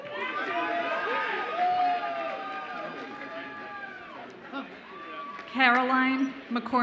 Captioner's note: audience applauds and cheers